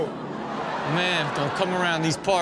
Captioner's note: audience groans